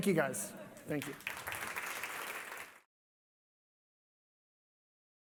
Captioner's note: applause